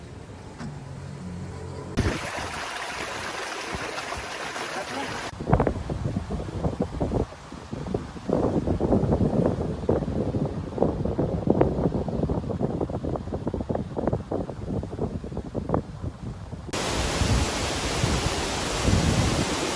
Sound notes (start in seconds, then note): 1.9 water splashing; 5.0 man speaking in foreign language; 7.3 wind whooshing; 16.7 water gushing